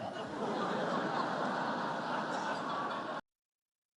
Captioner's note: laughter